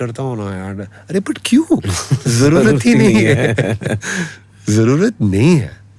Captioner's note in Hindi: हंसी